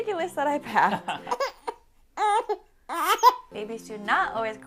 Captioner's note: baby cries